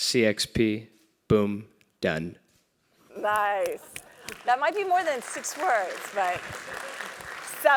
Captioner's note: applause